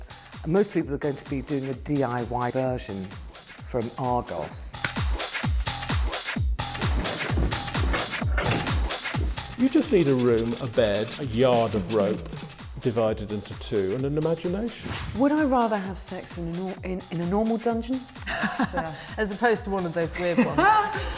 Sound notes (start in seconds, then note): 4.8 clicks